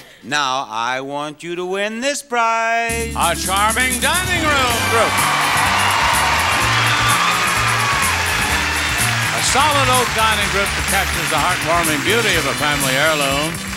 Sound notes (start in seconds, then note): 4.4 audience applauding; 5.0 upbeat music